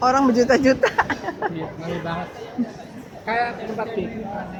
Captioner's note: laughs